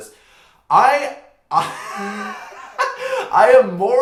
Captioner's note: laughter